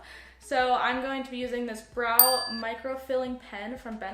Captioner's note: ding